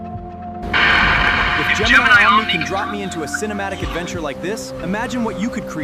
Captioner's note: radio screeching